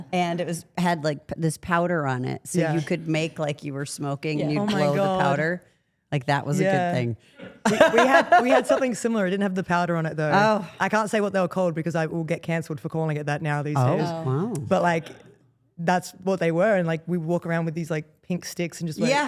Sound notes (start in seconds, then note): 7.4 Steph laughs